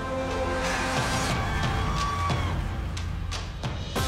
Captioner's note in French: applaudissements